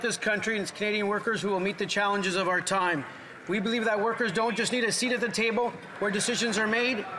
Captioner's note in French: voix de l'interprète